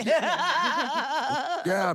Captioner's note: laugh